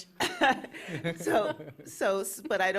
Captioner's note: chuckle